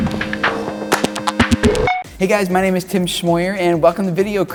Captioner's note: none